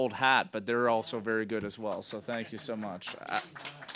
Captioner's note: applause